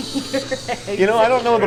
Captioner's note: laughing off camera